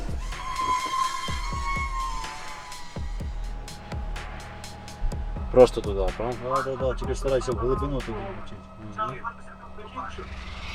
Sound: shooting

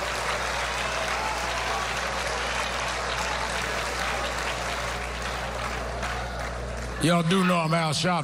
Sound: applause

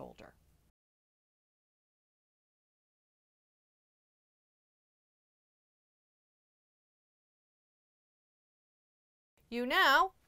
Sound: no Sound Present

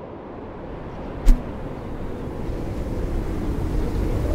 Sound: wind continues blowing

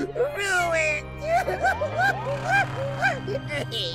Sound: sobbing

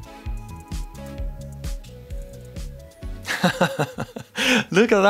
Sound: laughs

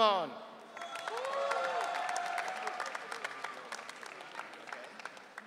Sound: audience cheering

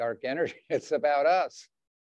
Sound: chuckles

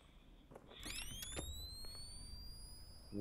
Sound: blaster charges

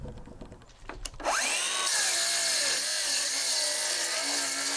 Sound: saw whirring

